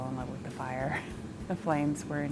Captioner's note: chuckles